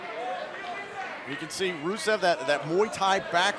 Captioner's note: crowd cheering